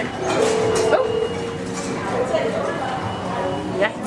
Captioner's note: telephone ringing sound